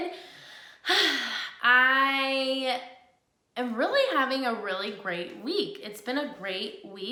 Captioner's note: sighs